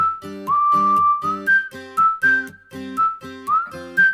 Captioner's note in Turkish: ıslık çalar